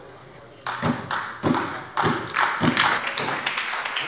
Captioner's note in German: Beifall bei der SPD